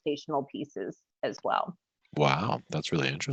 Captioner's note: laughing